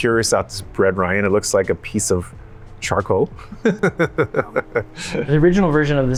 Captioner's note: laughs